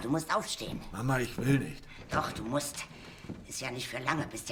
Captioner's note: Klopft